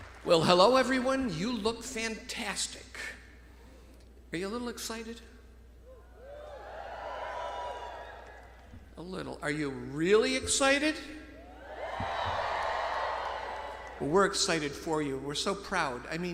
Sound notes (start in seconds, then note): 6.0 alumni cheering; 11.4 alumni cheering loudly